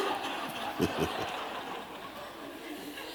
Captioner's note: laughter